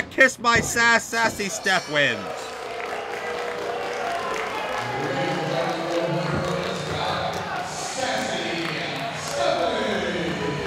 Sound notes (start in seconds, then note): 1.5 bell rings